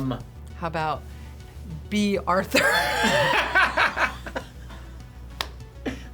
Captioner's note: laughs